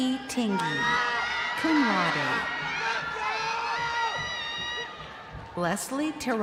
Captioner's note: crowd cheering